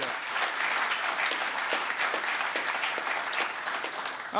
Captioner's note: applause